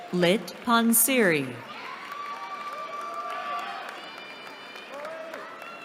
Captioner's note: cheering